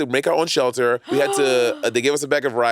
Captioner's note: gasping